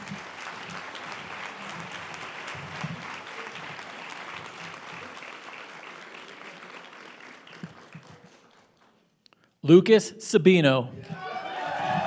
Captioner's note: speaking foreign language; applause